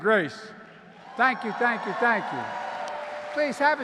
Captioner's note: applause